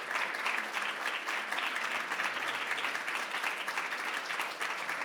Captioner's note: audience applause continues